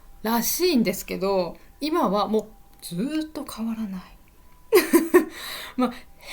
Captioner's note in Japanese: 笑い